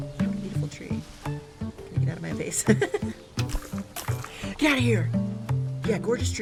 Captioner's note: laughs